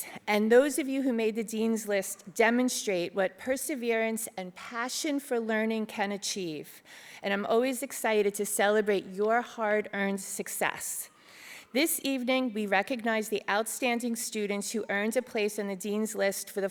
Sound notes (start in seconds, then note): none